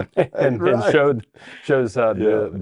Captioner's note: both laughing